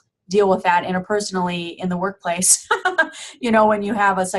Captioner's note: laughing